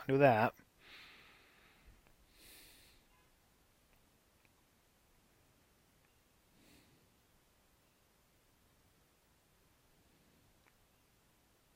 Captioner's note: silence